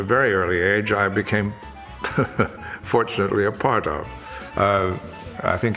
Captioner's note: chuckles